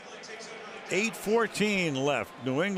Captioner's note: pa announcement